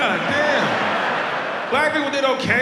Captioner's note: audience laughs